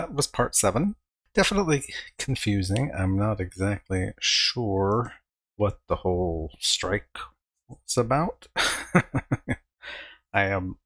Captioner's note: chuckling